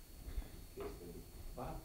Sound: chuckles

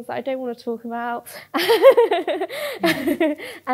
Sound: laughs

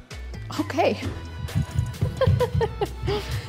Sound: laughs

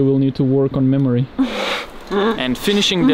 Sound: laughs

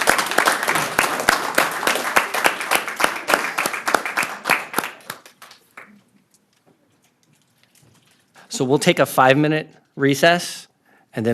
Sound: applause

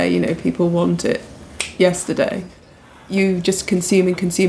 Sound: clicks fingers

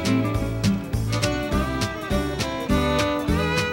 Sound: train chugging

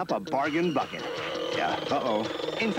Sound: pressure cooker steam whistle, bucket strains

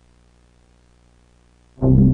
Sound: none

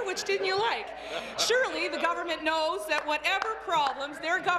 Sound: laughter

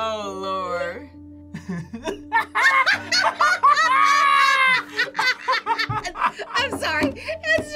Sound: both laugh

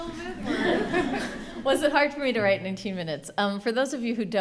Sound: laughing

